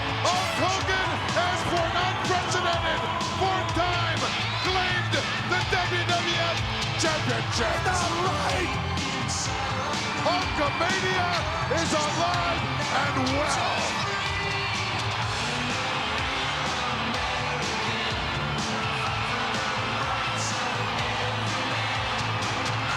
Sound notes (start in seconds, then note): 13.3 crowd cheering; 13.3 upbeat rock music